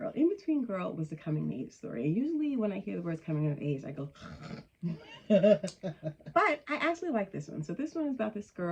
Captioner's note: snore